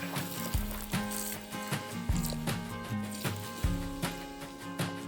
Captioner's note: campfire sizzling